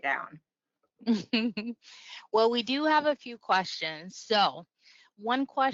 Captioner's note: laughs